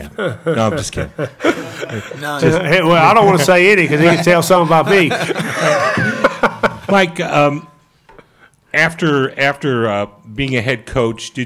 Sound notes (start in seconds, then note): 0.0 Mike chuckles; 5.3 laugh